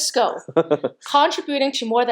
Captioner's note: laughing